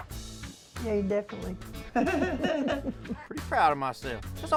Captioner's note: laughs